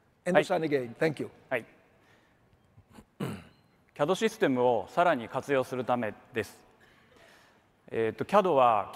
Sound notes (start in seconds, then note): 2.0 speaks in foreign language